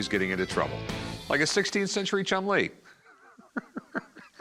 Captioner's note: chortling